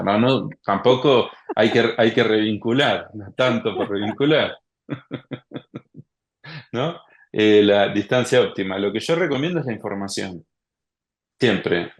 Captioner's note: laughs